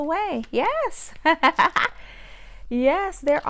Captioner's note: laughs